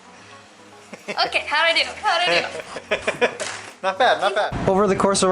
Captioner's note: laughter